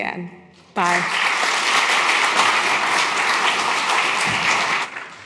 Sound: audience applauds

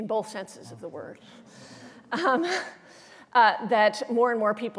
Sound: laughter

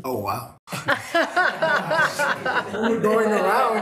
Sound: attendees laughing

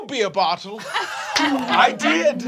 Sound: laughing

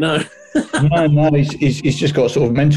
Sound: laughing

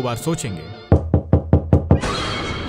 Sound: someone knocks on the door

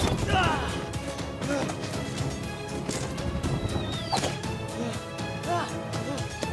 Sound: groan

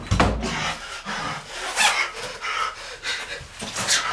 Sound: panting

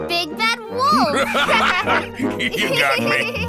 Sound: laughing

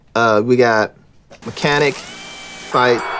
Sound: drill whirs; bell dings

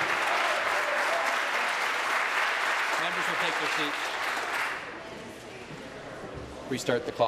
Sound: applause

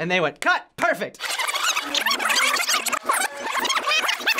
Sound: audio rewinding

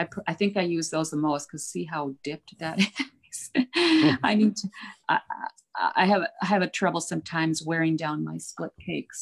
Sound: laughs

